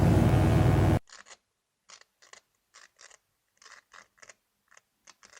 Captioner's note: electric buzzing; rats scratching